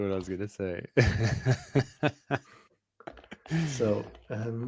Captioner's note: laughs